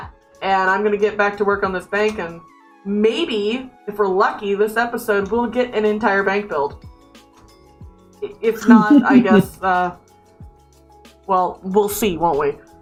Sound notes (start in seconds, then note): 8.6 laughs